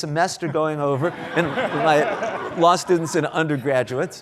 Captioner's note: laughs